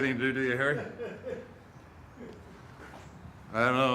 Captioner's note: chuckles